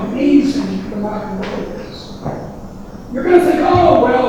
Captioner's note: banging drowns out speaker